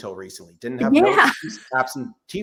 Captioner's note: laughs